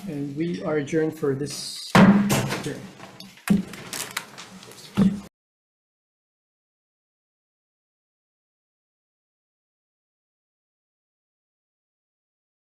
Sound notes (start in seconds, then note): 2.6 papers shuffling